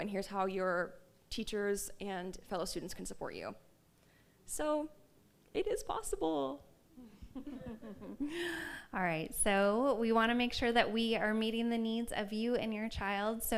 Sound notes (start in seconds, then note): 7.2 laughs